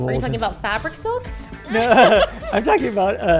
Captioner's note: both laugh